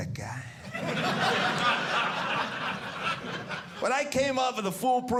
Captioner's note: audience laughing